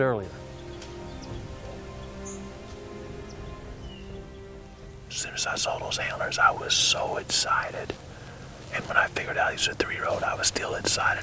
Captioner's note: whispering